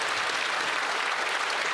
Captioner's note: some Applause